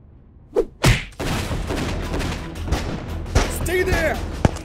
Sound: rollerskate thuds; guns firing

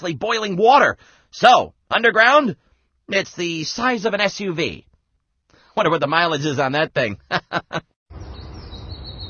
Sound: laughs

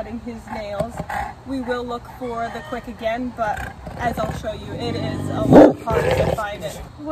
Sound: bark

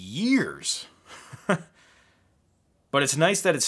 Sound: laughing

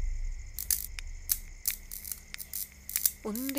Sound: light flickers

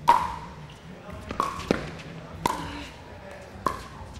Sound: ball bouncing

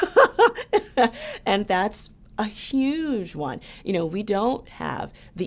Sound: laughs

